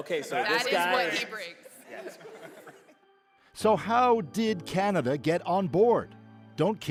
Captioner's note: laughter